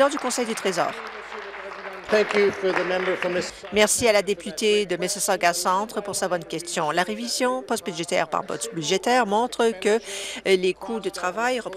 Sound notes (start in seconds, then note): 2.3 applause